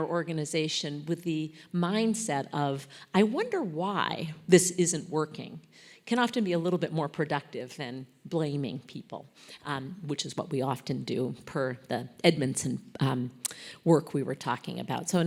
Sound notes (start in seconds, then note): none